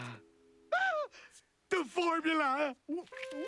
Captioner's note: sighs; gasps